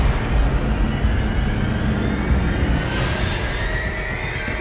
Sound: airplanes rumbling

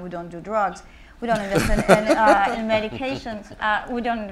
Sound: panelists laughing

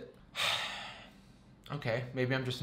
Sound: sighs

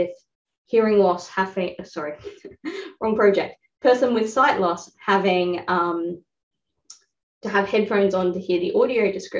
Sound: laugh

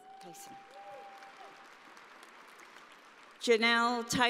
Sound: audience applauding

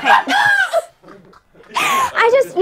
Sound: people laughing

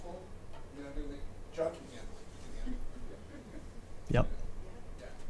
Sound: speaking off mic

